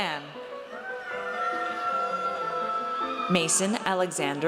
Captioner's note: audience cheers